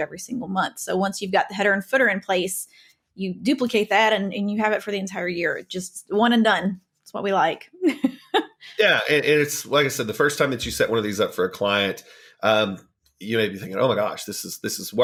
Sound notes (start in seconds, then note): 7.9 laughing